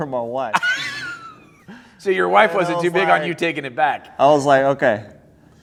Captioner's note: laughter